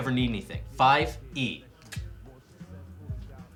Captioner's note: clicks tongue